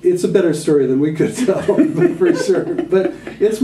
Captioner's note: laughter